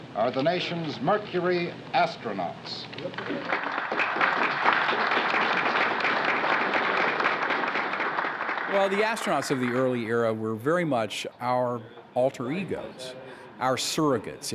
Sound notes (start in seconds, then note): 3.0 audience applauds